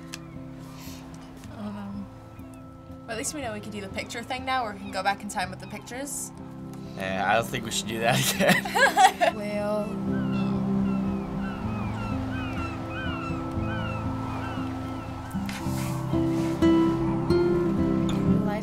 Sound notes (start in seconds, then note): 8.0 laughs; 8.0 chuckles; 10.1 birds chirping; 15.6 tranquil music